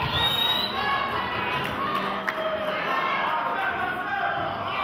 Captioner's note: audience member whistles